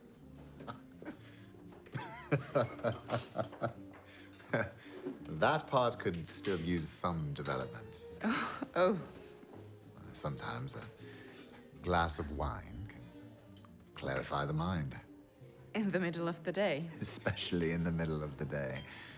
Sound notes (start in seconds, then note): 0.3 Bjorn chuckles; 7.9 chuckles; 17.1 chuckles